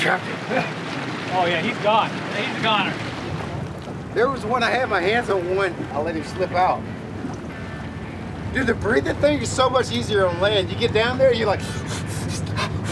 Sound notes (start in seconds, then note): 11.6 gasping and panting